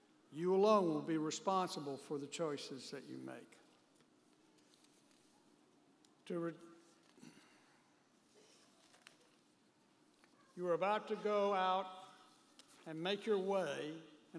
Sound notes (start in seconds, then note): 8.3 pages rustling